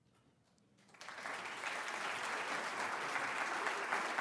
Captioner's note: applause